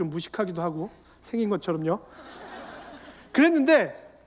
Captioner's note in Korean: 웃음